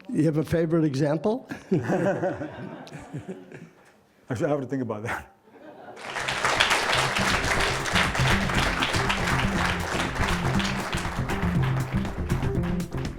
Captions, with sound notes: You have a favorite example? (audience laughing) - I still have to think about it. (audience applauding) (cheerful music)